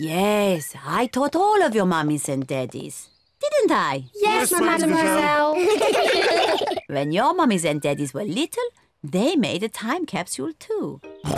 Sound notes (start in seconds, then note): 4.8 all laugh